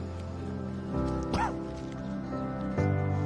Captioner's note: coughs